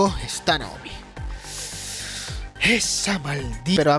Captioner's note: inhales